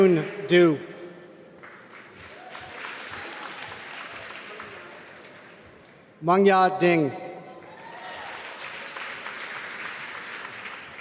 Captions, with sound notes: Yun Du (applause) Mengya Ding (applause)